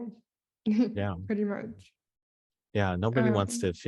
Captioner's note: chuckles